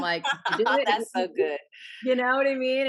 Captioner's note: laughing